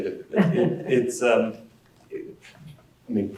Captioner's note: laugh